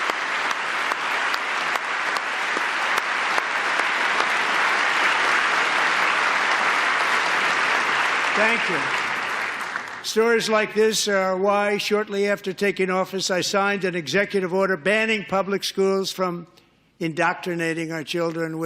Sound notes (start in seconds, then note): 0.0 applause